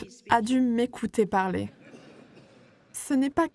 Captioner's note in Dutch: publiek lacht